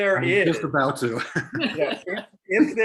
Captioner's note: laughter